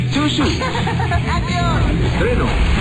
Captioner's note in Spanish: risas